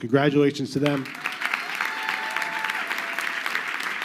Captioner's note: crowd clapping